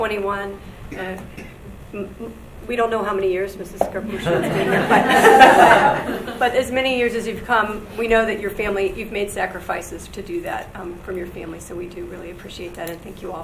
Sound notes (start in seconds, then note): 4.1 audience laughs